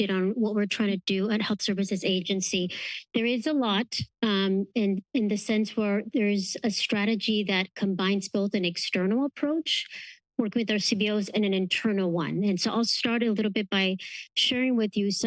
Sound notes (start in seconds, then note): none